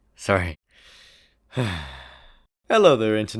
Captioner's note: catches breath